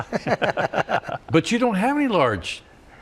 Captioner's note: laughter